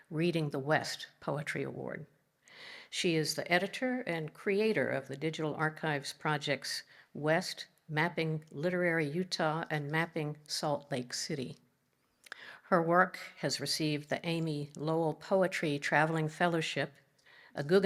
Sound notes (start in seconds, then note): none